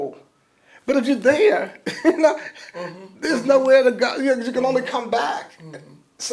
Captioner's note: laughs